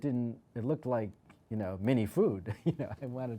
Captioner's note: laughs